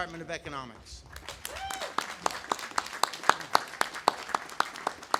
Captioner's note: audience applauding